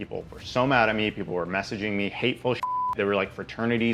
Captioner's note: beep